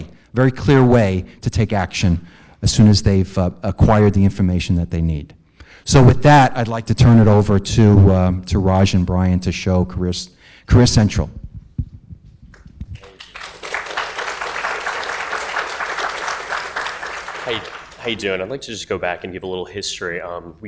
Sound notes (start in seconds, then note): 12.9 audience applauds